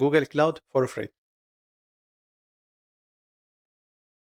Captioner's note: silence